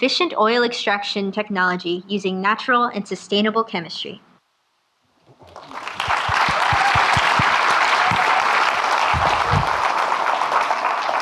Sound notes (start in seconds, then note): 5.3 audience clapping